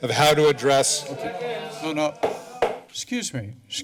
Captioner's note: audience murmuring; hitting gavel